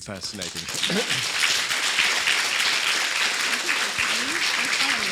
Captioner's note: audience applauding